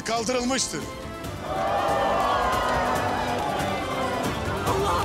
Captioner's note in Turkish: Tezahürat sesleri